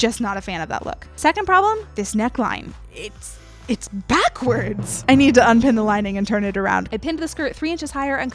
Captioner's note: classic dun dun dun sound effect